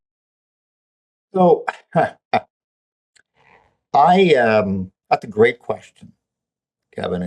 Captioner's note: chuckles